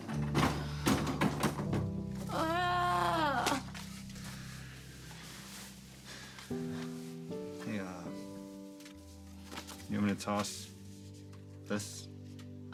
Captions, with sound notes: (Cassie sighs) (Cassie groaning) - Hey, uh. You want me to toss this?